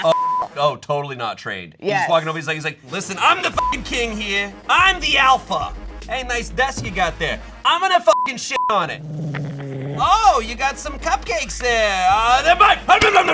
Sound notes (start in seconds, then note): 3.5 beep; 8.1 beep